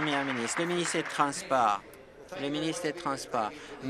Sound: applause

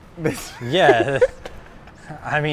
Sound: laughing

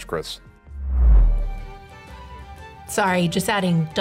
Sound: air swooshing

